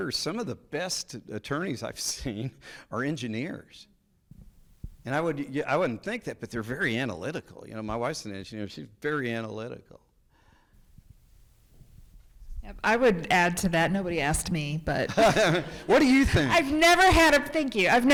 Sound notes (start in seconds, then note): 15.0 people laughing